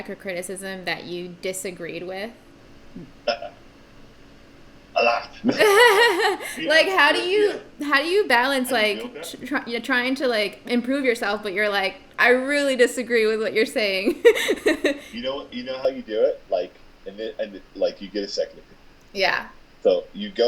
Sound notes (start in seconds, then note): 2.8 laughing; 14.0 laughing